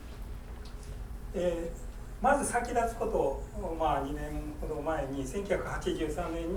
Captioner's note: speaking in foreign language